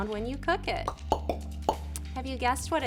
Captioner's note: popping